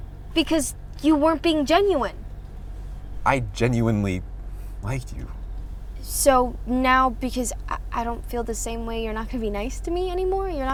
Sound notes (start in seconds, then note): none